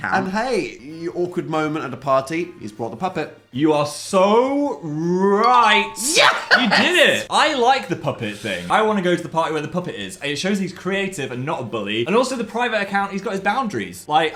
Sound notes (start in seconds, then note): 5.4 bell chiming; 6.1 laughing